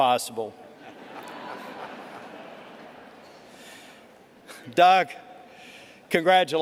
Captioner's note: laughter